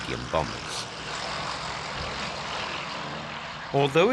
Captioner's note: plane roaring